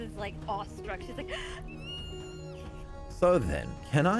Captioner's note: happy fae noises